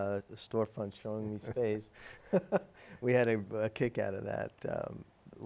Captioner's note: laughs